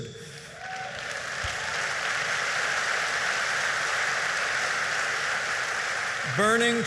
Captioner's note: applause